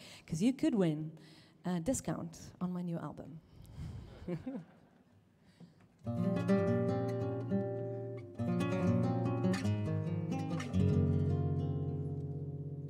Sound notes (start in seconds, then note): 4.1 chuckles; 6.0 instrumental music